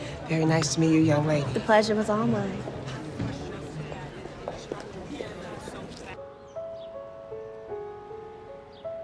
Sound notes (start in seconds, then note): 3.2 crowd chattering in background; 6.1 gentle piano music